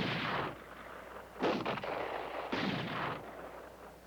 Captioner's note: gunfire continues